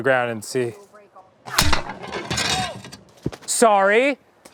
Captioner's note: pew; glass clatters